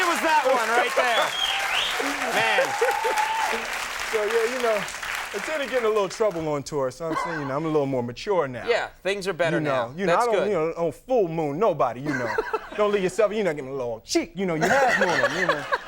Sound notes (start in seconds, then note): 0.0 audience laughing and clapping; 2.0 audience cheering; 12.0 Conan laughing; 14.6 Conan laughing